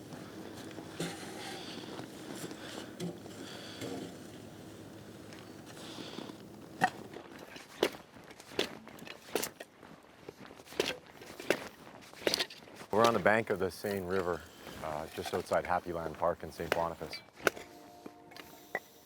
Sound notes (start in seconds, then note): 0.1 panting; 9.6 chopping wood